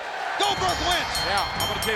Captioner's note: bell rings